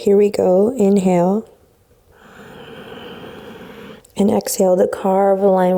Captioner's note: breathes deeply